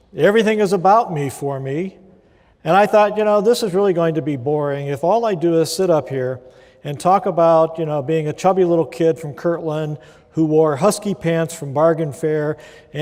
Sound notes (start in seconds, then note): none